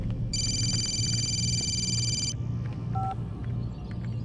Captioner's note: phone rings